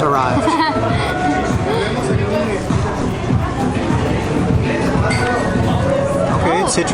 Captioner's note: laughs